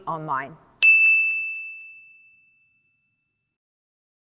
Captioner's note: bell dinging